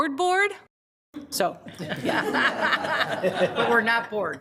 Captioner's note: group laughs